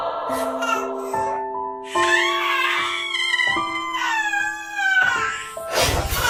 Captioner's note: dramatic Slow-mo Baby Cry